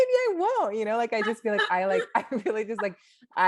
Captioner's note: laughs